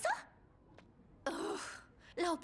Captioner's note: groan